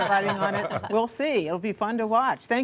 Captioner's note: laughter